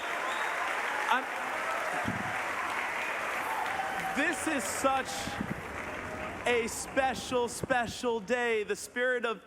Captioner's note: applause